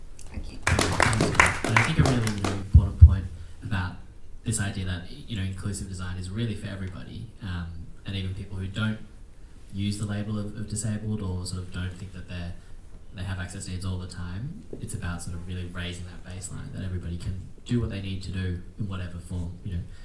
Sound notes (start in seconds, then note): 0.5 attendees clapping